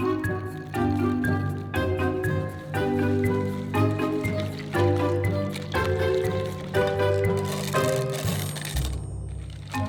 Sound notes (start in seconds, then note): 0.1 pecans dropping; 4.5 whisking; 7.7 chocolate dropping